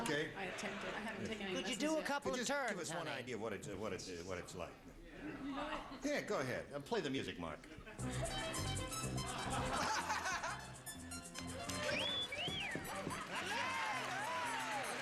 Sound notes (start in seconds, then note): 11.8 wolf whistle